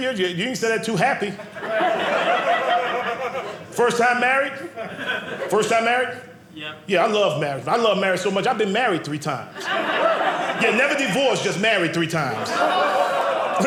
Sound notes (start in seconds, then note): 1.3 audience laughing; 12.2 audience laughing